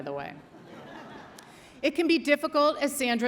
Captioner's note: audience laughs